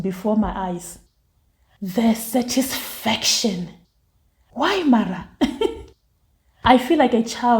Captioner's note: laughs